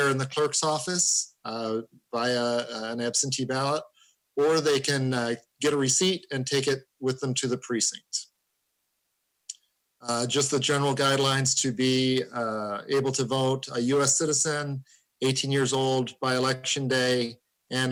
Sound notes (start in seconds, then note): none